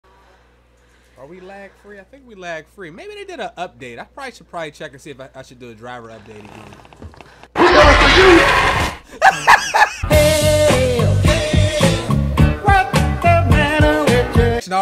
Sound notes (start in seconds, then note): 7.5 loud scary beast yells; 8.8 laughs